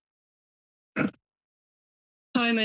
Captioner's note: clears throat